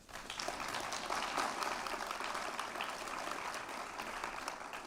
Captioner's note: applause